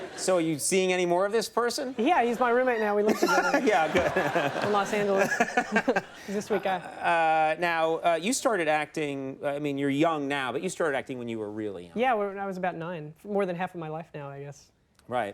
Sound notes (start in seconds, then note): 3.7 Conan and audience laugh; 5.7 Conan laughs